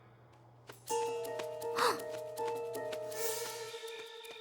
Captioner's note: gasps